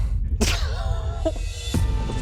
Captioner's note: laughter